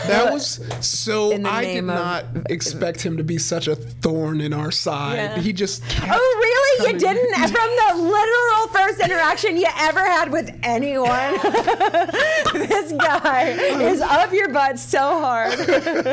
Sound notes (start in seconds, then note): 11.0 laughing